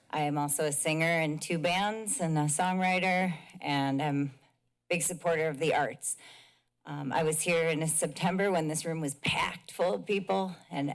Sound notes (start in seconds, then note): none